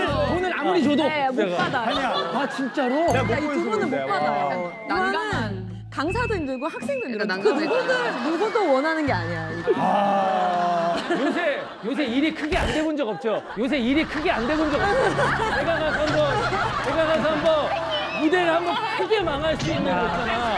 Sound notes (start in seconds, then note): 9.7 Sighing